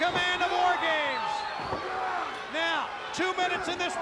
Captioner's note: crowd cheering